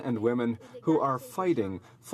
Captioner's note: speaking French